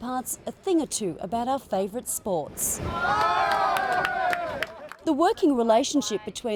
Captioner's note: navy personel cheer